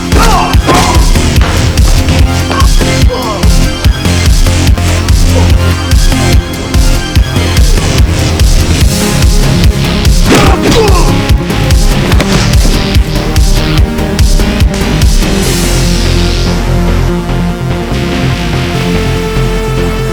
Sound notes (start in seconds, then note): 0.0 Anton cries out; 3.0 dramatic electronic music; 10.2 Anton cries out; 10.5 dramatic electronic music